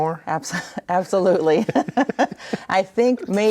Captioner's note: chuckling